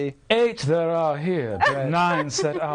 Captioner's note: laughing